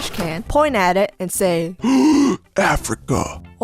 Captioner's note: gasp